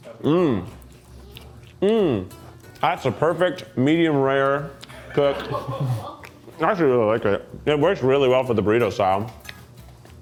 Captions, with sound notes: Mm, mm. That's the perfect medium rare cook. (crew laughs) I actually really like it. It works really well for the burrito style.